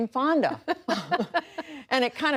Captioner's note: laughter